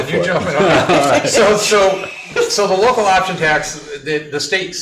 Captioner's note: laughing